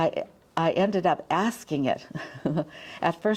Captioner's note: chuckles